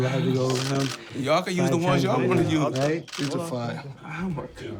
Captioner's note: sighs